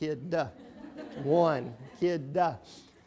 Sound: laughing

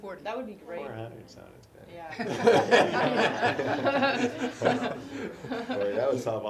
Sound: laugh

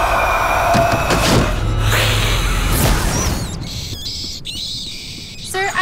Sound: hissing

